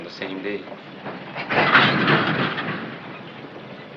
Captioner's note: train rumbles